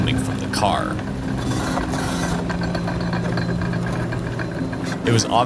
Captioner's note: metal grinding